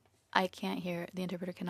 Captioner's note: speaking French